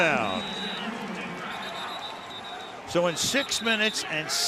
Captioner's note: whistle blows